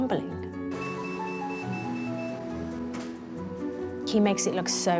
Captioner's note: machine beeps